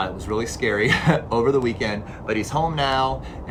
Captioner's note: chuckles